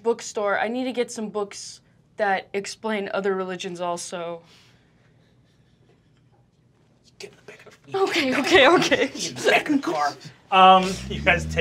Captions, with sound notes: I need to get some books that explain other religions also. (giggling) - Get in the back of the-- - Okay, okay, okay (giggling)! - Get in the back of the car! You guys take off.